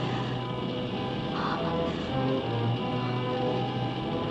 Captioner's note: Liora gasps